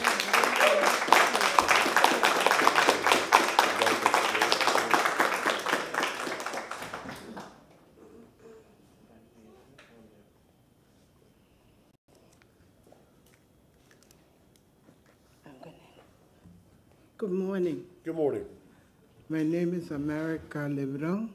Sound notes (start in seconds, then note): 3.5 applause